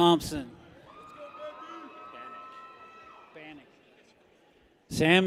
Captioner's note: people cheer